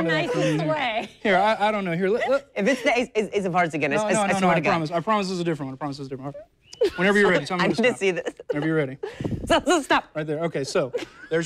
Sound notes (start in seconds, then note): 4.2 laughter